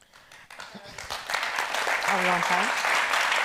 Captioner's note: audience applauds